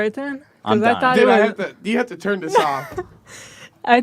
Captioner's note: laughs